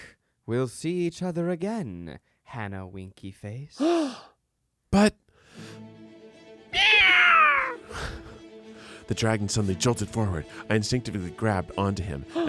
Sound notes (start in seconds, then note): 3.8 gasps; 5.5 adventurous music; 6.8 screeches